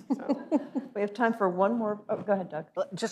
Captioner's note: laughs